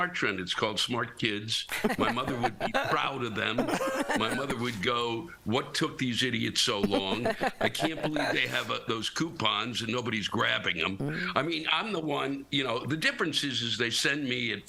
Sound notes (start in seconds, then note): 6.8 laughter